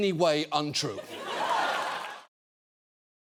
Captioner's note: studio audience laughing